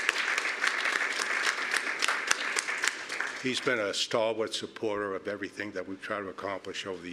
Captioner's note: applause